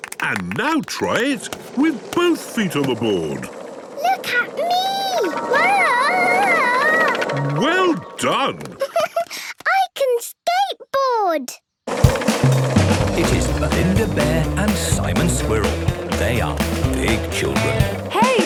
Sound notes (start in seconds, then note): 7.4 giggles